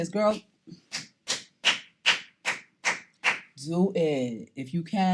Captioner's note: clapping